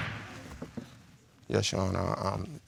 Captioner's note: gavel banging